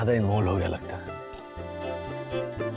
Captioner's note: clicks tongue